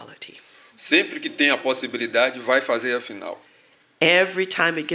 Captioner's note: speaking portuguese